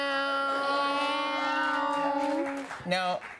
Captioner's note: cheers and applause